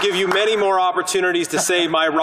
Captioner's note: applause